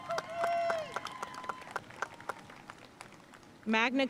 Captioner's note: audience cheering and applauding